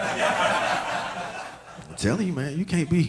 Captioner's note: audience laughing